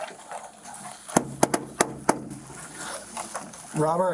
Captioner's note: knocking